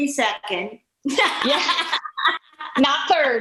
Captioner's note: laughing